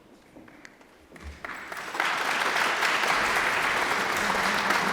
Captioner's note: audience applauds